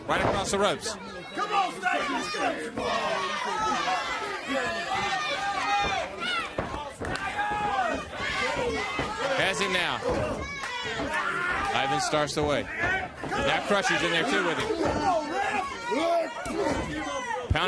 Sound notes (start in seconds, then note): 4.2 crowd chatter